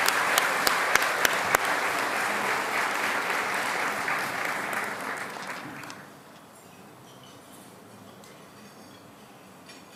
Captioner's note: applause